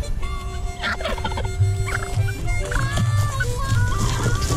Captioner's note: turkeys gobbling